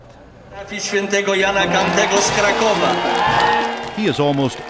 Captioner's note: italian announcement